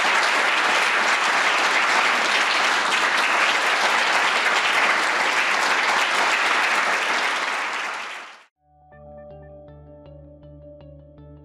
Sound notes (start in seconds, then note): 2.3 audience continues applauding; 8.6 gentle music